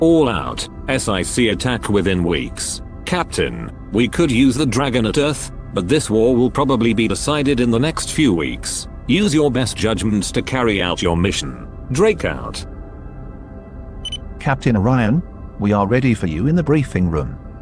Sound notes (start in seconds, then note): 14.0 com Chime